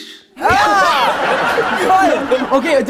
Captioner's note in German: Gelächter